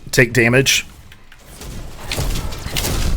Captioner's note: explosive game effects